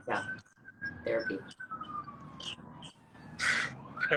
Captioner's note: sirens blare in distance; laughs